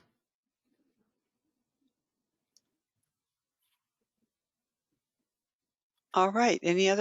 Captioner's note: 5 seconds pause